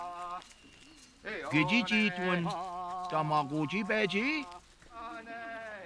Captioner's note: speaking Passamaquoddy